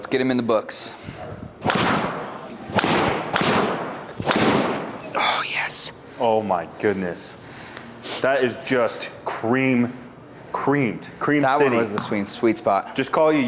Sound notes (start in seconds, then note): 1.6 club swishing and clicking; 1.6 impact of ball thudding; 5.3 whispering